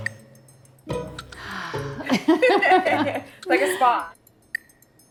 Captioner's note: laughs